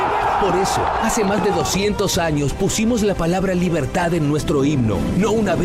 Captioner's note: ovation